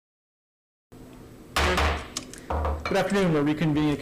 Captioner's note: gavel banging